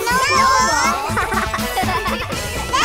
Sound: laughing

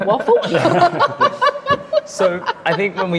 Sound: laughing

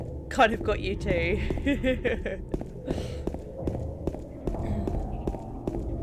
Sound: laughs

